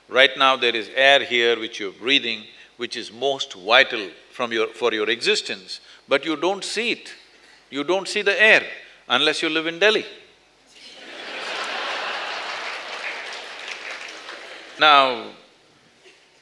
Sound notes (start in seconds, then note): 10.8 laughter/Applause